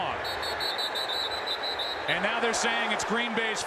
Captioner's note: whistles blowing